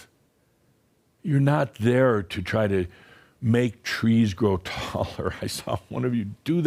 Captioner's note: Adamus chuckles